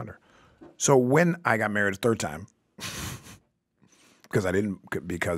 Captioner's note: chuckles